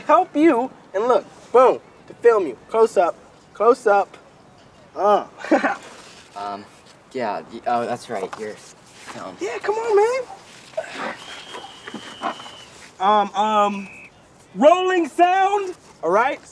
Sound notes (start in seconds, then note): 5.3 laughs; 11.0 whistle blows